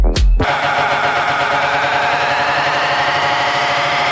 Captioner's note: fans clamoring